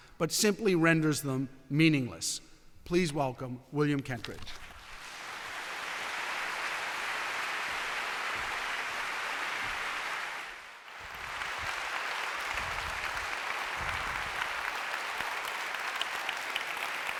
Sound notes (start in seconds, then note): 5.9 applause